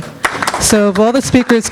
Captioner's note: audience clapping